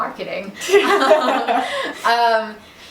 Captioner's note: both laugh